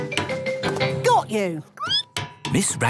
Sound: squeaking

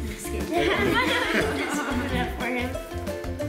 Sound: laughing

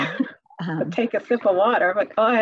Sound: laughs

